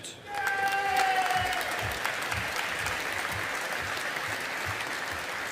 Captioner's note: audience applauding